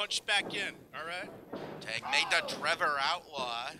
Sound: wrestlers grunting

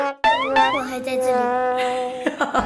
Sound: sob

